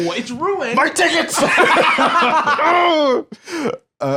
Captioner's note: both laughing